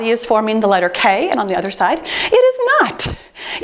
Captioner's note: timer beeps